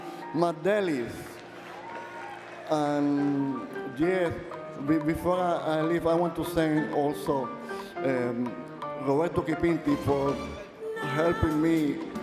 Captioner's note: speaking Alternate Language